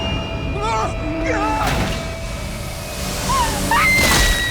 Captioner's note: sinister music; driver screams; Christina screams; body thumping